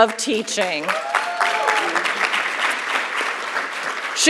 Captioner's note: audience clapping